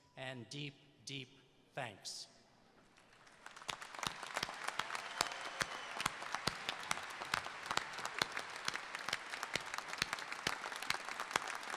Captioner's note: applause